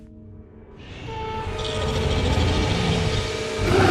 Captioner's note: growling